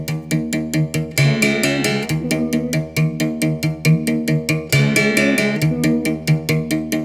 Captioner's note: foreign language